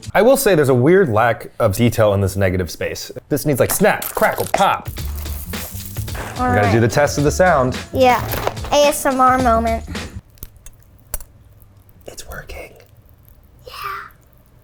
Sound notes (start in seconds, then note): 4.8 cereal trickling; 10.2 cereal crackles